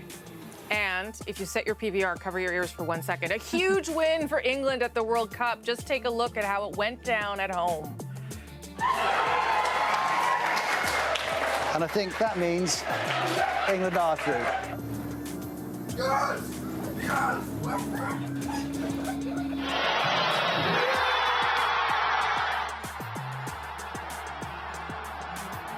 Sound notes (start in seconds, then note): 14.9 cheers and Applause; 19.2 cheers and Applause